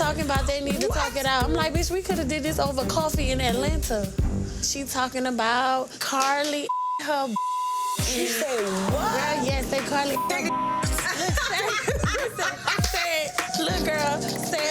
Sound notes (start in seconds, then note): 6.6 beep; 10.8 woman laughing